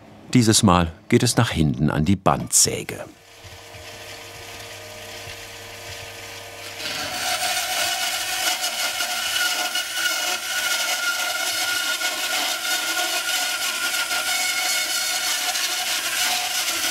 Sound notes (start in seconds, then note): 7.1 screeching sawing noises